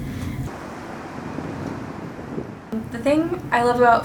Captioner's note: wind whooshing